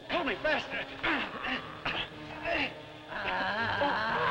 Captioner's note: men grunting; Popoca groaning